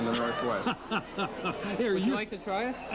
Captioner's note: laughing